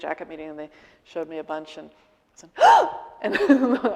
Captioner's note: gasping